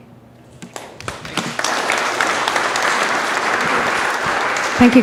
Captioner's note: audience applause